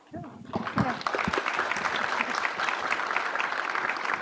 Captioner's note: audience applause